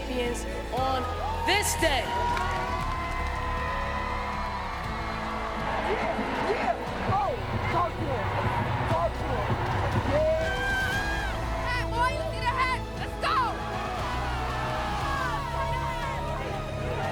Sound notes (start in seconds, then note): 2.3 cheering; 13.6 cheering